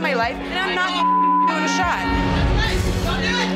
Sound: beep

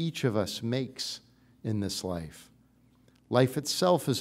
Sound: none

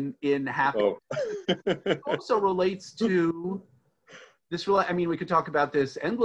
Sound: laughing

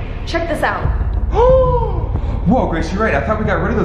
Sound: gasps

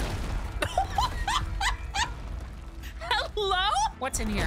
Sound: laughter

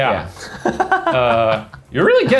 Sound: laughing

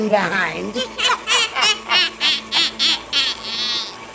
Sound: cackling

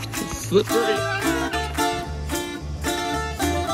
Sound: sandals scraping; yells; bright music

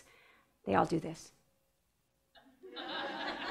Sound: audience laughs

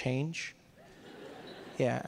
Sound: audience laughing

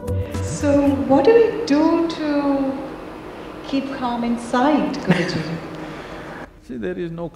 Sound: Sadhguru laughs

